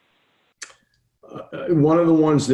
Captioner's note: lip smacking